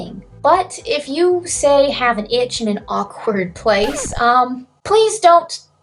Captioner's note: record scratches